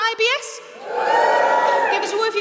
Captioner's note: audience members whoop